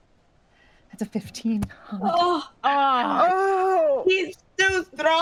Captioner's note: cast members groaning